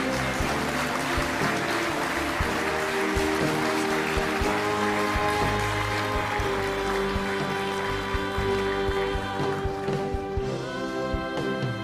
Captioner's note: applause